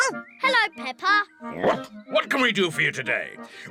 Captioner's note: barks